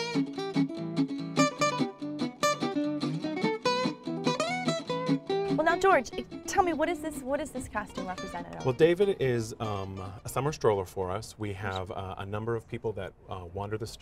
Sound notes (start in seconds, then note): none